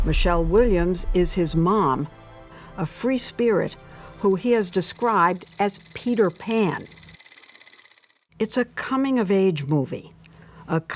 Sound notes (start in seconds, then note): 7.1 film projector clattering